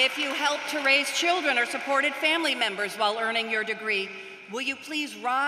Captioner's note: applause